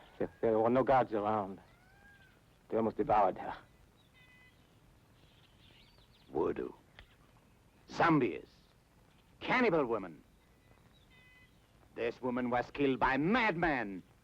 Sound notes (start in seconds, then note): none